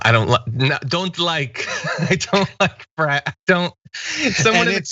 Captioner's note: laugh